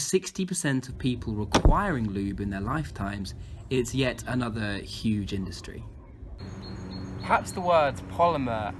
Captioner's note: slam